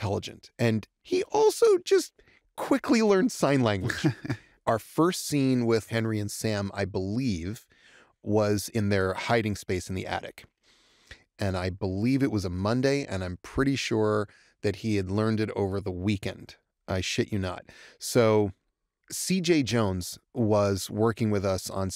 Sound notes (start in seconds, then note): 3.7 chuckles